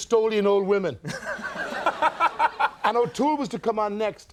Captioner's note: Audience and Host laughing